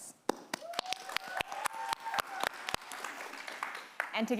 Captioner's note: audience applauding